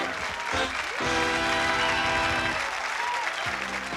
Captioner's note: applause